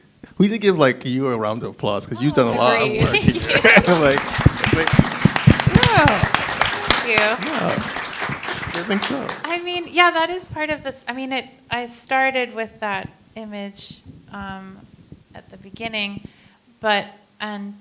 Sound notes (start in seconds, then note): 3.0 applause